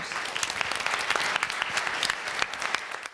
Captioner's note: applause